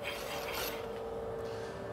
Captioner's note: machine noise